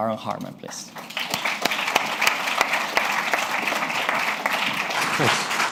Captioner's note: applause